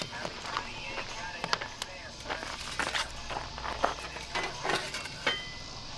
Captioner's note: cicadas chirping; wood clunking together